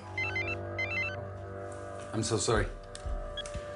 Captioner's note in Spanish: Suena el celular